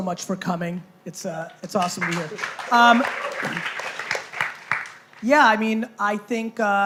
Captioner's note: applause